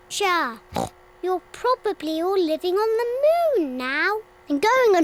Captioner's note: oinks